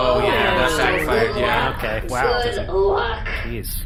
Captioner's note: the crew make alarmed and unenthused noises